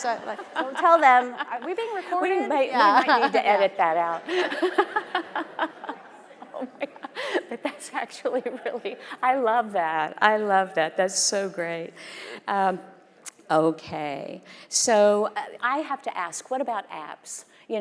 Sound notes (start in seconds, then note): 4.2 both laughing; 4.3 audience laughing